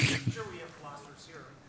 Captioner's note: laughter